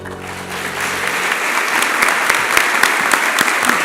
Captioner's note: applause